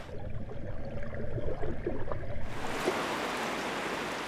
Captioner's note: water sloshes